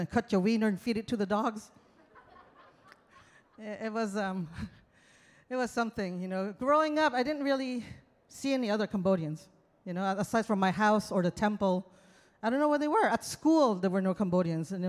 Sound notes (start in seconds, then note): 1.9 audience laughs